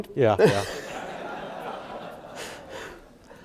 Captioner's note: laughing